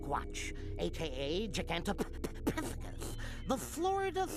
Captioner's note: stuttering